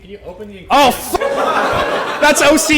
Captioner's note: laughter